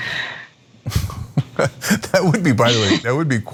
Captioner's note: laugh